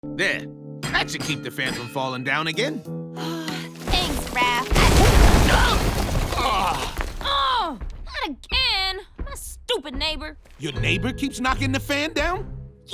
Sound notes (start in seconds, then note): 3.8 loud crash; 7.2 yells